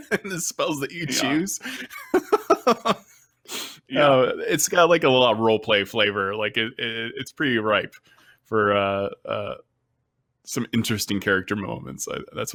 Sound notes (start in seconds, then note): 0.0 chuckles